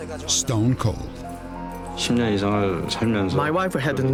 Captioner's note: speaking korean